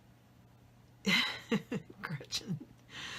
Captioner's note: laughs